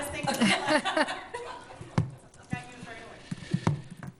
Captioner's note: laughing